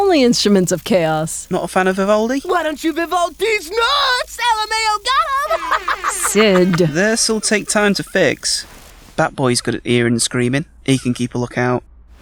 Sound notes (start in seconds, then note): 3.8 cackling